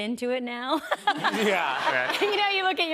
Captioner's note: laughter